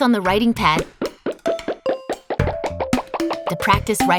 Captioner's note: beeping sounds